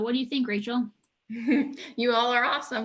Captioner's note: chuckles; laughs